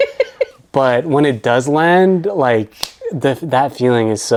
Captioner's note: laughs